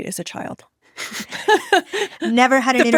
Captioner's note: chuckles